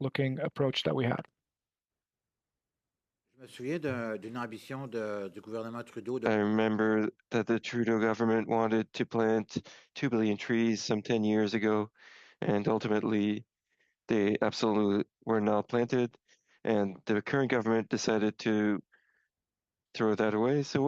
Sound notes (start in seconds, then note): 6.9 speaking French